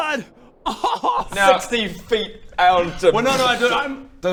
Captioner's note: cries; pppfffft